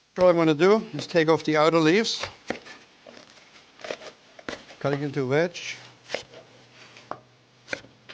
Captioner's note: slicing & chopping